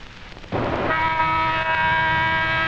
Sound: siren

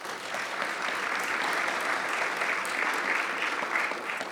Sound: attendees applauding

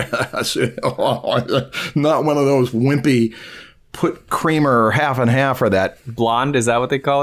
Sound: laughter

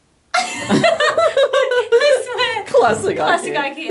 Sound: laughing

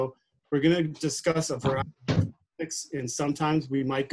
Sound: thumping drowns out speech

